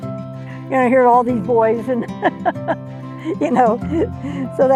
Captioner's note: laughs